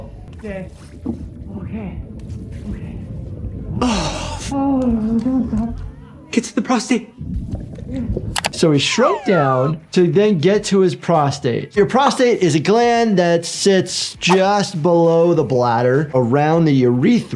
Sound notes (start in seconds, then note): 4.1 Termite slapping